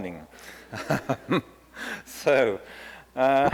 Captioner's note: laughs